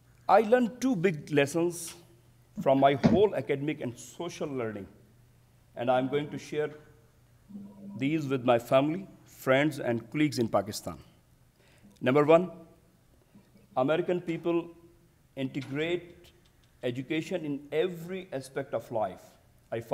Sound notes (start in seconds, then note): none